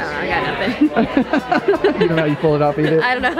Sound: laughing

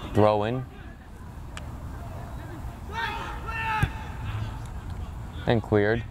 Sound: players talking and yelling

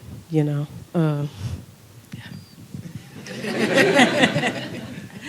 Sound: laughter

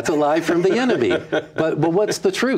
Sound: laughs

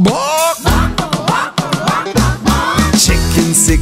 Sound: kids repeat

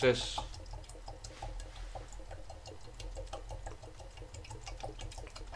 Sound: water gurgling

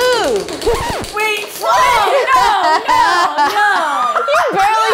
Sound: screaming

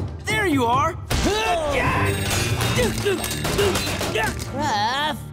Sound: grunting

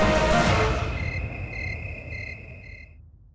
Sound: owl hooting

